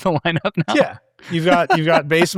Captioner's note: laughing